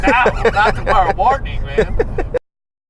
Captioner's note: laughing